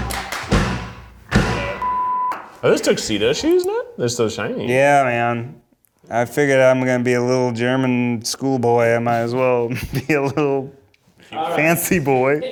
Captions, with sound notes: (beeps) - Are those tuxedo shoes, Ned? They're so shiny. - Yeah, man. I figured I'm gonna be a little German schoolboy, I might as well be a little fancy boy.